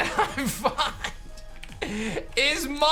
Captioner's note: giggles